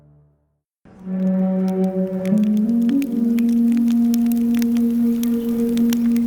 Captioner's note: fire crackling